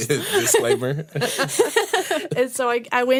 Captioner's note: laughter